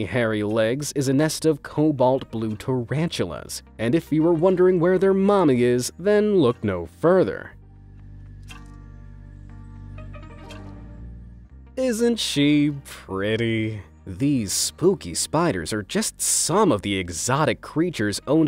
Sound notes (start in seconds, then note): 12.0 speaks in a sarcastic tone